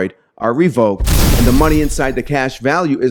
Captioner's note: explosion booms